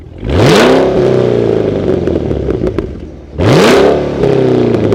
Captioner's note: car engine revving